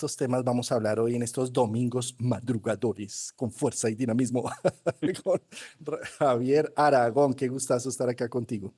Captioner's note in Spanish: risas